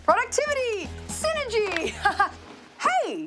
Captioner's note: laughs